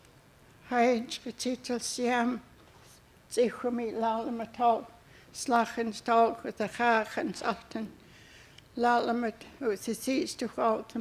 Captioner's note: speaking Hul'q'umi'num